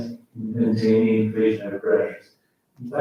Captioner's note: faintly speaking